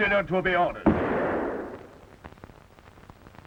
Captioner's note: gun fires